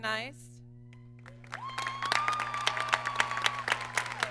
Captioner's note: applause